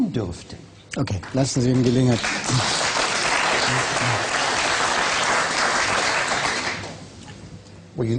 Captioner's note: applause